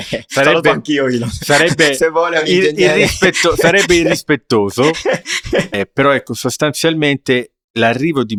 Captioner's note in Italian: risate